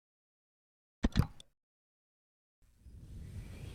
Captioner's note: click